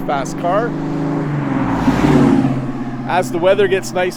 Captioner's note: engine rumbles